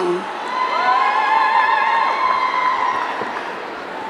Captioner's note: audience cheering